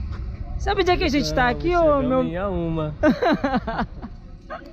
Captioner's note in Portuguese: risos